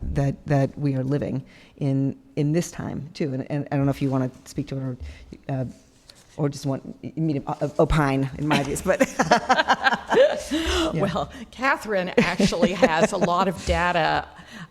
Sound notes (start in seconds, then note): 8.5 both laughing